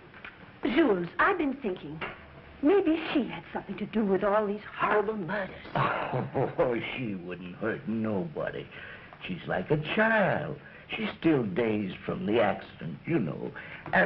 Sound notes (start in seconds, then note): 5.7 chuckles